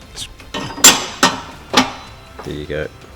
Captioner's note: clanking